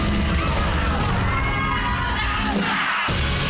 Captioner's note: shouting; audience member squeals; all shout